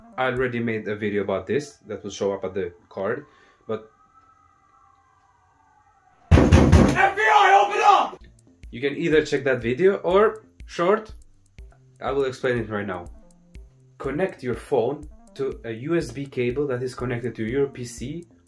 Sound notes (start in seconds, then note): 3.1 sounds of sirens growing louder; 6.3 knocks